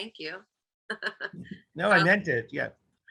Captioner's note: chuckles